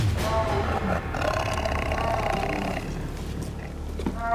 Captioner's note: growls